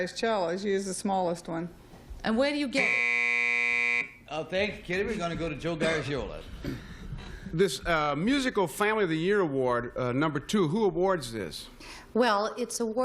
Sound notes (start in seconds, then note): 4.2 buzzer